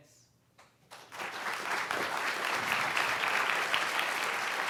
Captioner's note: audience applauding